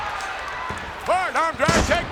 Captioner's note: audience cheers